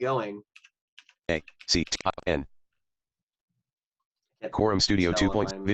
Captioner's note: speaking fainlty